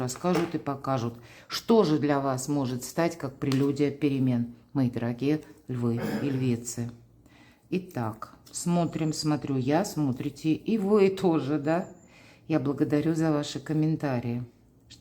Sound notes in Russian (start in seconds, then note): 5.9 откашливается